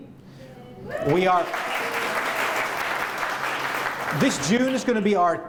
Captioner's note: applause